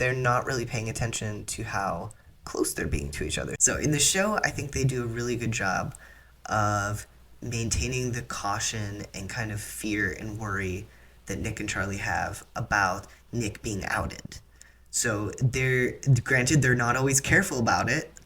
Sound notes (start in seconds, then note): none